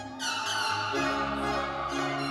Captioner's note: air horn blaring; orchestral music continues